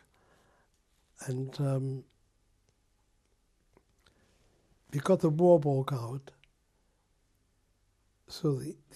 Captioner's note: pauses for 3 seconds